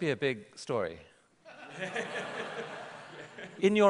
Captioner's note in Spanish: Risas